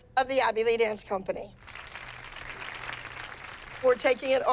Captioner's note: applause